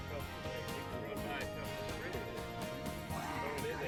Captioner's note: men chatting; upbeat country music